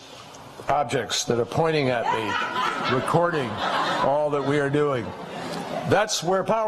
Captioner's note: laughter